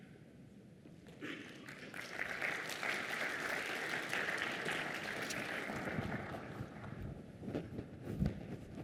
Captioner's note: applause